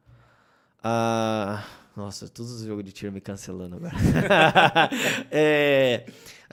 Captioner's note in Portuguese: risos